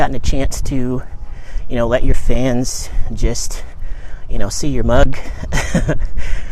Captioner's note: laughs